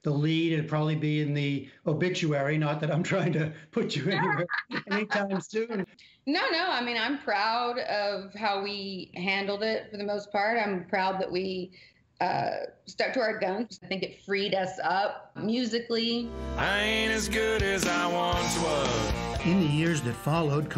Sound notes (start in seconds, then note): 5.7 laughter